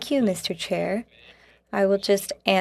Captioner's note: speaking French